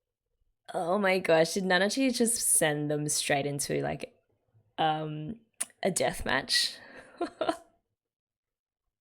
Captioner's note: laughs